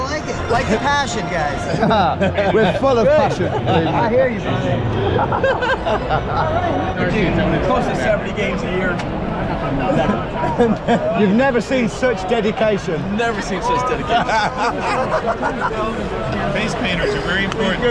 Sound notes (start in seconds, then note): 4.9 both laughing; 13.8 laughing